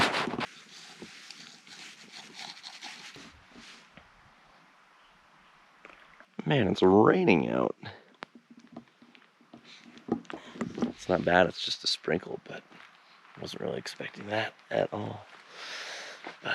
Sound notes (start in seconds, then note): 2.7 quitely Slurps Coffee